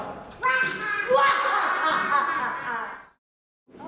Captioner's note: laughing